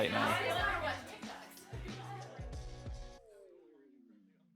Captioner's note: people chattering